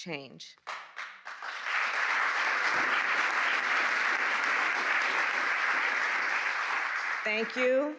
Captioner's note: applause